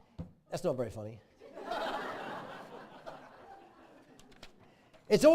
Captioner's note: laughing